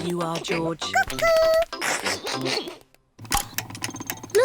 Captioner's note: laughs